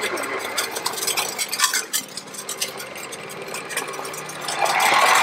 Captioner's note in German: Spindeldrehgeräusche; Schnarren der Walze auf dem Pflaster